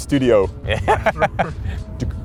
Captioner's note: nervous laughter